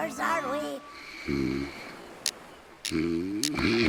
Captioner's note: soft snores